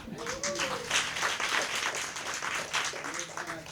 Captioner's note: applause